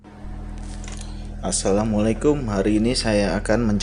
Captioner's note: Arabic